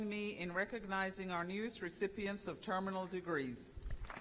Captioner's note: applause